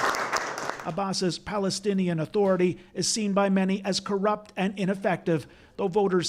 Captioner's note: applause